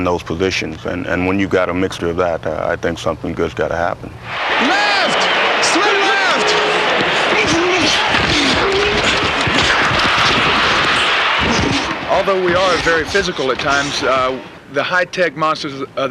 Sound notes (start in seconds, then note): 7.3 crowd cheering